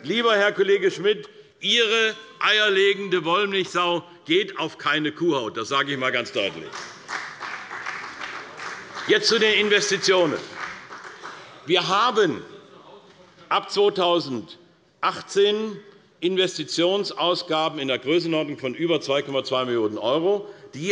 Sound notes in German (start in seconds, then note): 6.4 Beifall bei Abgeordneten der CDU